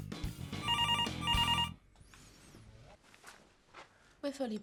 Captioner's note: phone ringing